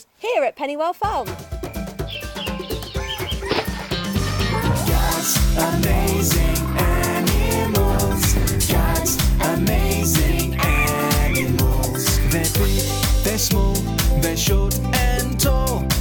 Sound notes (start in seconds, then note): 1.5 birds chirping; 3.3 water splashing